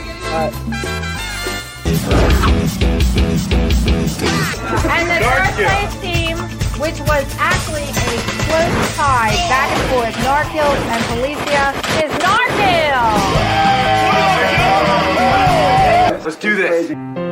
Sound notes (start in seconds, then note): 13.0 cheering